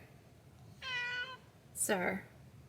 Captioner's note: raow